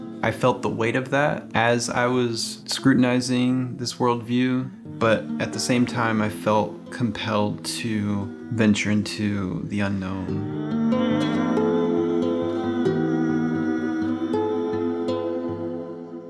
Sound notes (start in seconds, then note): 10.5 vocalizing